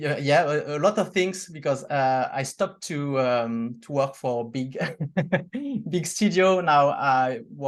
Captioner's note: laughs